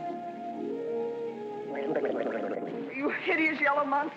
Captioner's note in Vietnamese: Tiếng òng ọc